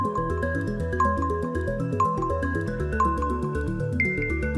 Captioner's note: timer beeping